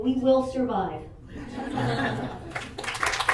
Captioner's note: audience laughing; audience clapping